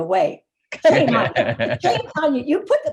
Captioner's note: laughing